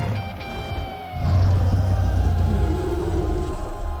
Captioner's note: beast roar